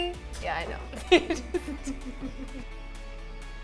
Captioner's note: laughs; upbeat music